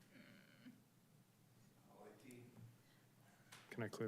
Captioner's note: groans